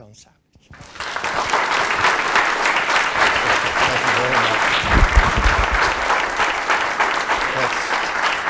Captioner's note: applause